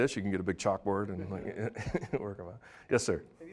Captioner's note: laughing